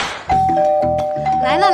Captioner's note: ding-dong